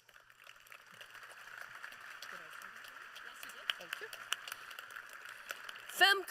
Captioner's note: applause